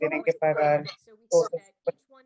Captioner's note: speaking Spanish